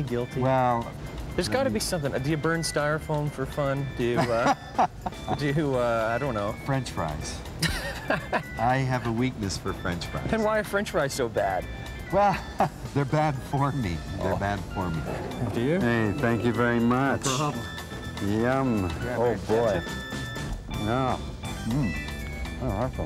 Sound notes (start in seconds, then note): 4.2 laughing; 7.6 laughing